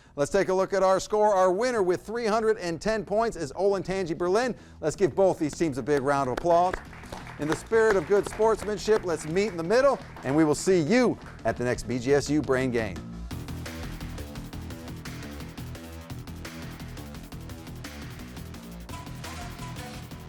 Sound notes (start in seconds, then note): 5.9 people applauding; 13.5 upbeat electronic music